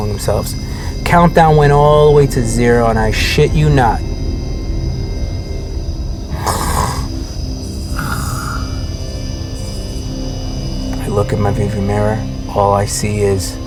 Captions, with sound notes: Countdown went all the way to zero, and I shit you not. (man snoring) I look in my view mirror, all I see is.